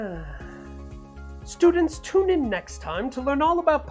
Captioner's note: sighs